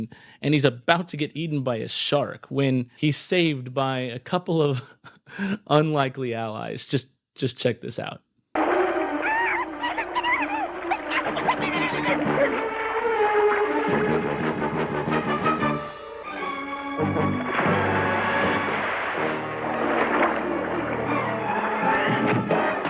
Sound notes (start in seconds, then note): 8.7 lion roaring; 8.8 Rubik laughing; 12.7 lion roaring